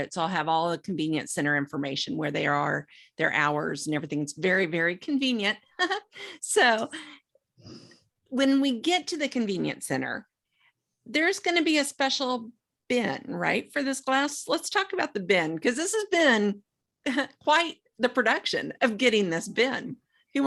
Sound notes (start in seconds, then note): 5.9 chuckles